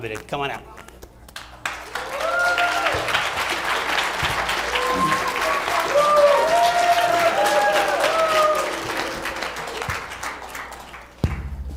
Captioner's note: applause